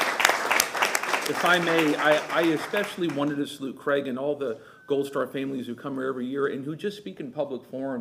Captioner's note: applause